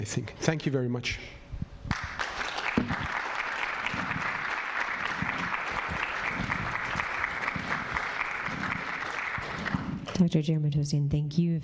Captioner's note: applause